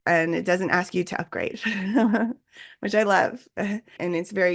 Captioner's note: laughs